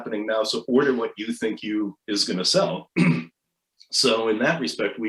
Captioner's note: clears throat